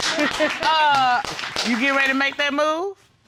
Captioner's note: audience laughs; laughs